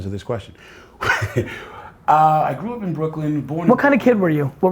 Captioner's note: laughs